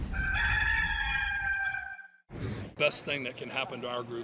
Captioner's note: rooster crowing